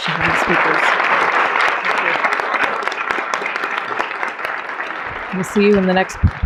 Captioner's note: applause